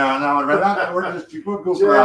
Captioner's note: laughs